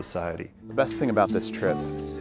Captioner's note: voiceover